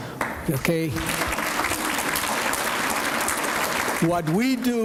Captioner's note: applause